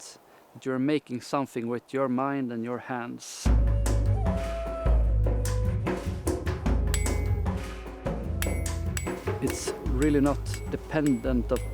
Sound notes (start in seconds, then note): 3.8 lively music; 4.7 hammer tapping